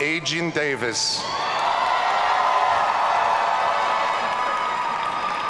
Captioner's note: audience cheering